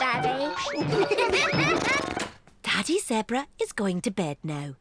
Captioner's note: all giggle